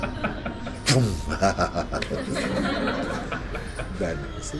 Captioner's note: laughter; makes sound of fire reacting to Benzene; laughter